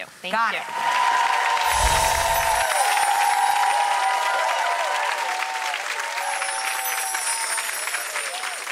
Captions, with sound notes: Got it. Thank you. (audience applauds)